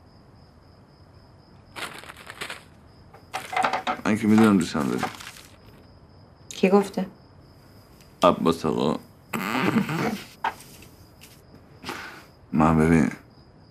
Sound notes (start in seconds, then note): 9.6 laughter